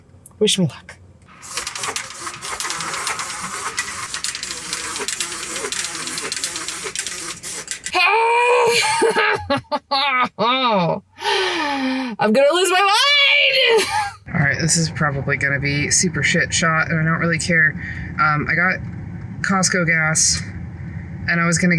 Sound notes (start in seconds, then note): 1.3 horrible noise of the cart